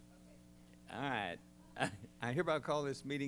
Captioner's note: laughs